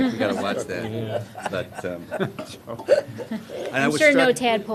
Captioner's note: laughter